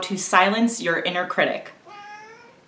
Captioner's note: meow